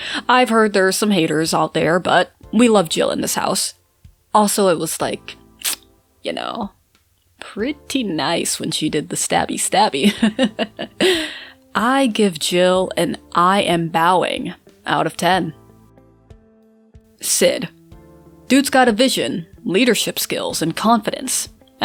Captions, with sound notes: I’ve heard there’s some haters out there but we love Jill in this house. Also it was like, y'know... pretty nice when she did the stabby stabby. (laughs) I give Jill an "I am bowing" out of 10. Cid. Dude's got a vision, leadership skills, and confidence.